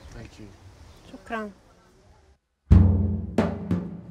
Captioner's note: speaks in foreign language